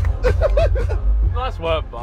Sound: laughs

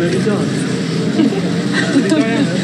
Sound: laughs

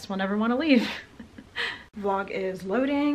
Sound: laughs

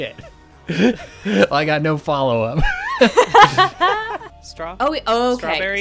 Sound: laughter

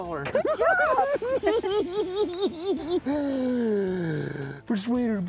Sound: cackling

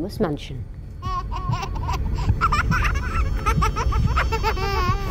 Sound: child laughing

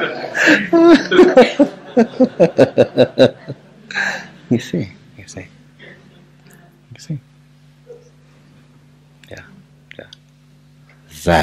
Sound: laughs

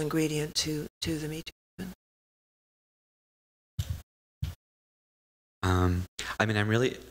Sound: audio out

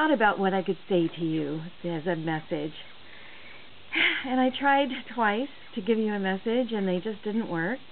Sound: sighs

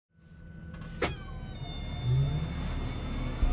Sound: click, and text printing

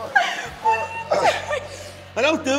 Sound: laugh

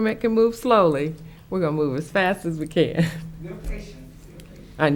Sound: giggles

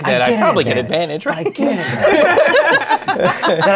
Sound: laughter

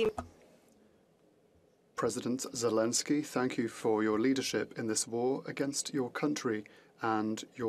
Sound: speaking French

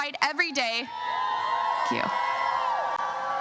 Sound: crowd cheers

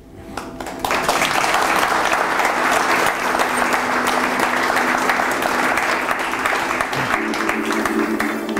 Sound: applause

